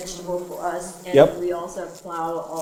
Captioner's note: bee buzzing